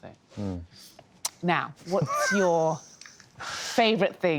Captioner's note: laughs